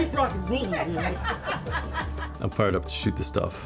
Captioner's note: laughter